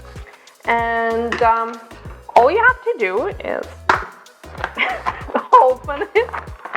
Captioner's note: laughs